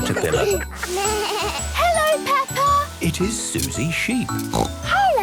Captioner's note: bleating; snorting